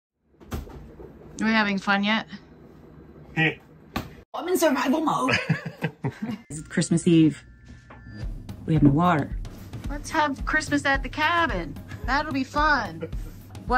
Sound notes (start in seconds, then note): 5.3 laughs